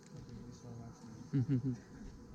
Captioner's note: dad laughing